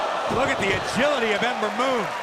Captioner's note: crowd cheering